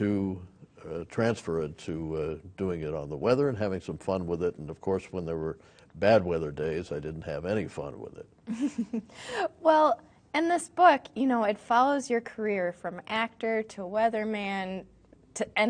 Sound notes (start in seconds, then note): 8.7 laughing